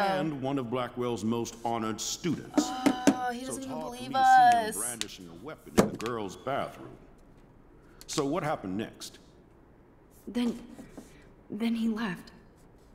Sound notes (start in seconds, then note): 5.8 thumping table